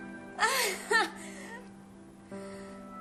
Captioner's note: confused, relived laughter